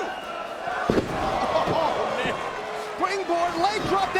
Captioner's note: spectators exclaiming